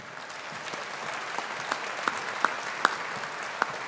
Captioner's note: audience applauding